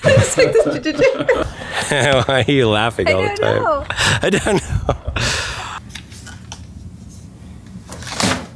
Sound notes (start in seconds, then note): 0.0 laugh; 0.0 laughs